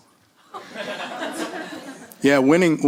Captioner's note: laughter